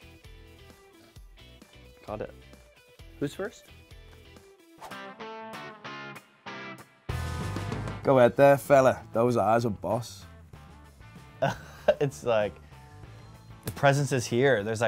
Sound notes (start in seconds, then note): 0.0 energetic pop music; 4.8 air whooshes; 4.8 energetic rock music; 11.4 laughs